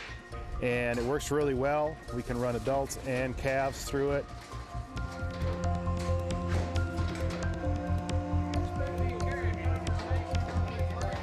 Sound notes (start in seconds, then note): 5.6 equipment clattering; 8.5 men chattering